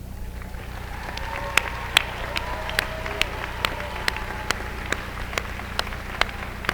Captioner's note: applause